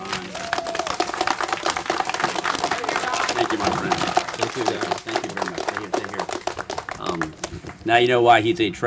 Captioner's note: applause